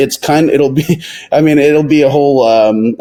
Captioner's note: chuckles